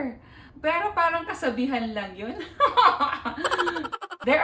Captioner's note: laughing